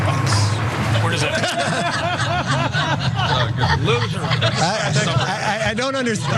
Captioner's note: laugh